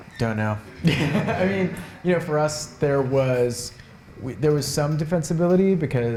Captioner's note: chuckles